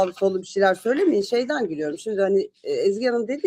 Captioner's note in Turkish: boğazını temizler